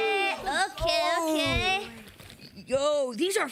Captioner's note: group cheers